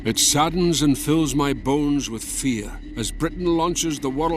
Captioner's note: Voz en off